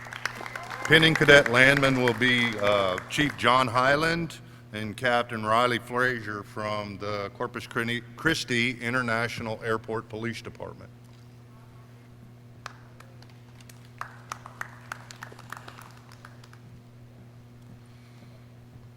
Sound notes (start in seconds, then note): 0.0 clapping; 15.2 clapping